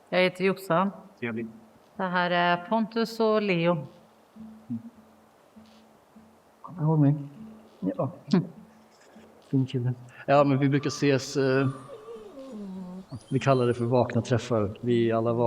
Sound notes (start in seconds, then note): 10.4 A bird caws; 13.3 A dog whines